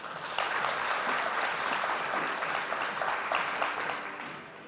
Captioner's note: audience applauding